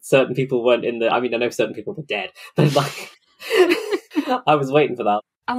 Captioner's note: laughs